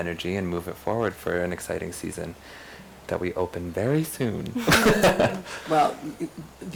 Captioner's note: laughs